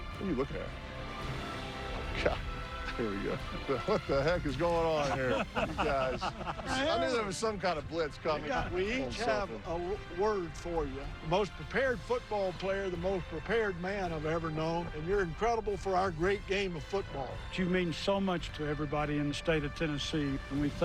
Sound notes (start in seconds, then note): 8.5 laughter